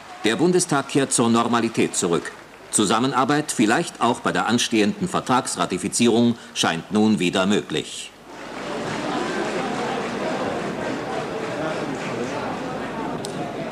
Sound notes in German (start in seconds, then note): 8.2 Applaus